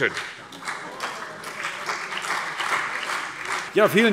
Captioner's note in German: Beifall CDU und BÜNDNIS 90/DIE GRÜNEN